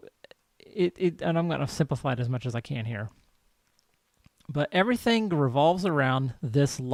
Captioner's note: stammers